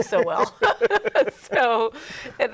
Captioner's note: both laughing